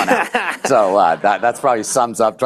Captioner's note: laughter